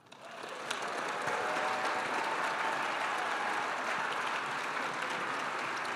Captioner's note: audience cheering and applauding